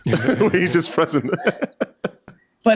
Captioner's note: laughs